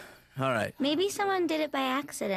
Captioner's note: sighs